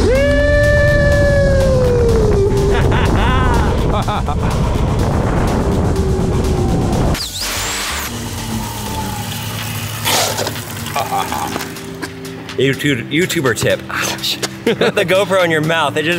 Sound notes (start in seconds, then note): 2.2 laughing; 7.5 musical whirring; 10.1 shoe scuffing